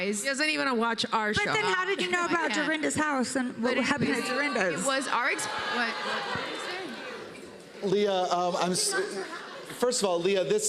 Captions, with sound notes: She hasn't even watched our show. But then how did you know about Dorinda's house and what happened at Dorinda's? -It was our exp--What? -[audience gasps and murmurs] -What did you say? Leah, um, I'm-- first of all, Leah,